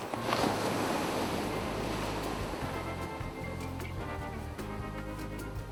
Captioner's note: ocean waves